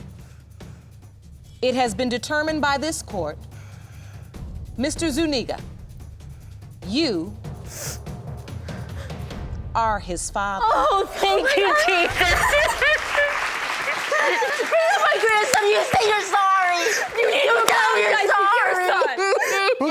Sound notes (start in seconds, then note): 13.0 sobbing; 19.7 sobbing